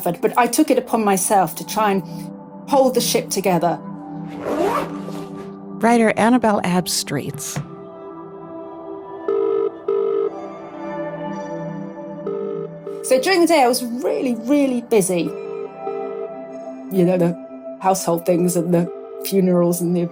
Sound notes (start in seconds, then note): 7.9 light music; 9.2 phone ringing